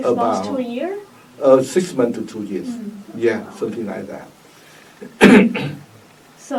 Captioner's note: coughs